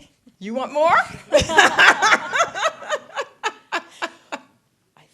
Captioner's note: laughter